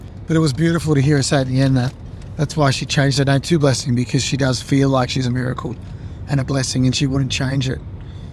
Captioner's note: none